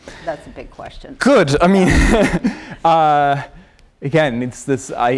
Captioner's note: laughter